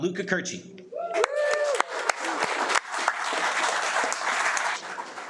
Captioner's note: audience applauding